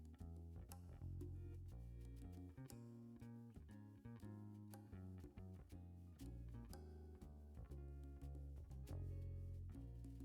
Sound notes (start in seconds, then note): none